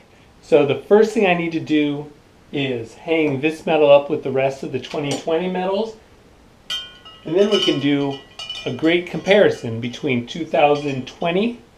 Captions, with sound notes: So, the first thing I need to do, is hang this medal up with the rest of the 2020 medals. [medals clanking] And then we can do a great comparison between 2020